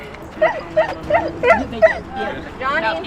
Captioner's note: dog whimpering